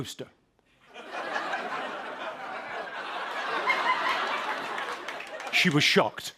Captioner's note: laughter